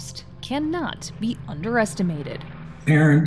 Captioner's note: plane whooshing distantly